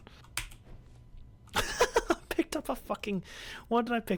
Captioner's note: laughs